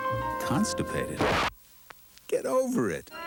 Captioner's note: sound of record scratching